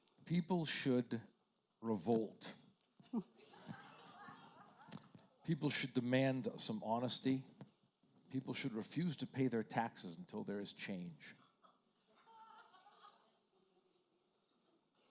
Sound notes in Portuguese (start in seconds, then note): 3.5 risos da plateia; 12.1 risos da plateia